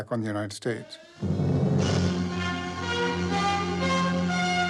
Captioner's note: sirens blaring